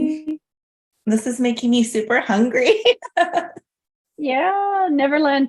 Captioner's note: laughs